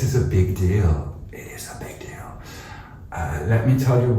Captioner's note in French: Chuchoté